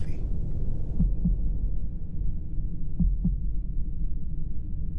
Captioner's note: heart thumping